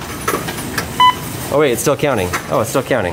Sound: machine beeps

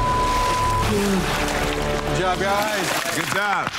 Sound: water splashing; both gasping; all clapping

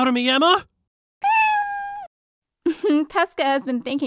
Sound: meow

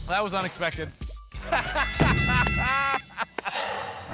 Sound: laughter

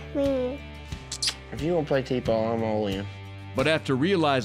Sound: kisses

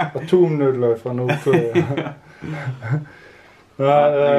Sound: laughing

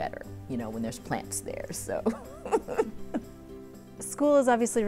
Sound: giggle

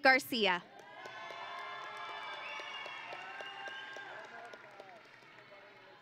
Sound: audience and graduates cheering

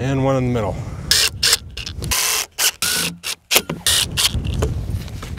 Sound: drill whirling

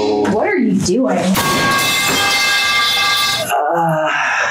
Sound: metal clanking sound effect

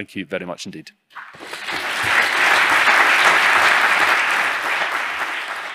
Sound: audience applauding

